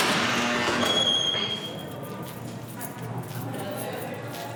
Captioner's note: lock buzzes, door creaks